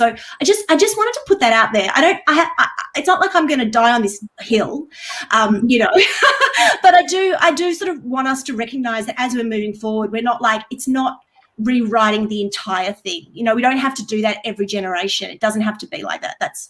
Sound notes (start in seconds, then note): 5.9 chuckles